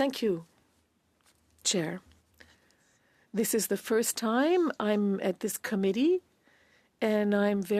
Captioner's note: speaking French